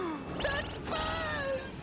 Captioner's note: gasps